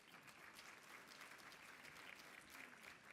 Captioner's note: applause